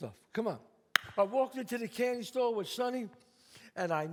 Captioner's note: claps